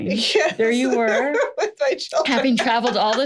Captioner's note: laughs